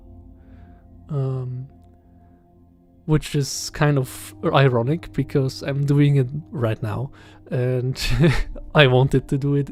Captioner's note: laughs